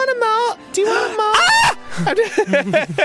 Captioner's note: screams